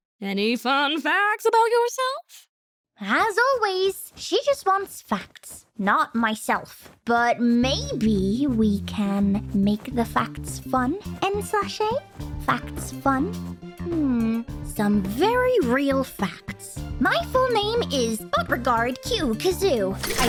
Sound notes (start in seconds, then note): 12.3 in bot's voice